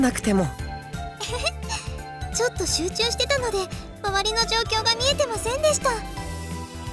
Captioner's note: chuckle